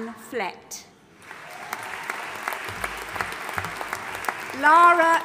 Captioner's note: audience applauding